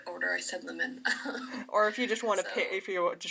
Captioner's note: chuckles